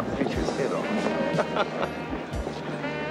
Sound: laughing

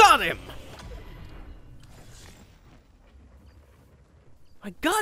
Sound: game effects

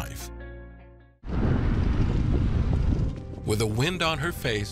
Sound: wind swishing

